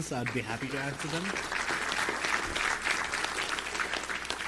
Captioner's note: applause